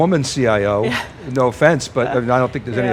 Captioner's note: laughing